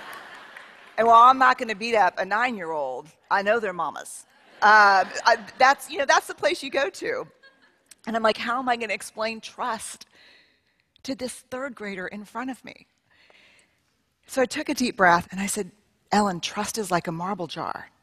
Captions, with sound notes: [Laughter] And while I'm not going to beat up a nine year old, I know their mamas. That's, you know, that's the place you go to. And I'm like, how am I going to explain to trust to this third grader in front of me. So I took a deep breath. And I said, Ellen, trust is like a marble jar.